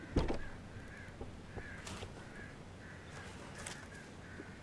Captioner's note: car door clicks